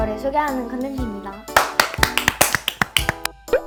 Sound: clap / Clap / Clap / Clap

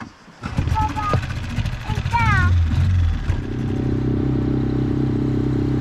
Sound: motor whirring

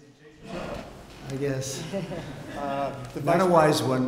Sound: laughter

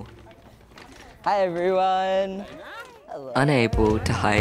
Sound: others call greetings

